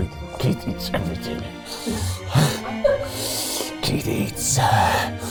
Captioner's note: inhales sharply